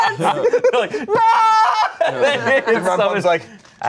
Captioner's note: screams